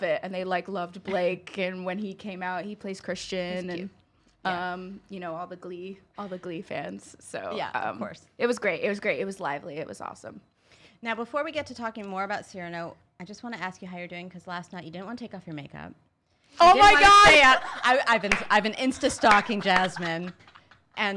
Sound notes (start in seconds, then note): 16.6 laughing